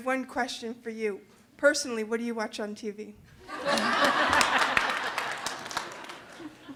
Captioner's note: audience laughing